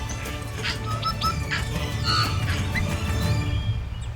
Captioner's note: bird calling